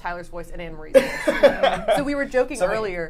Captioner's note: laughs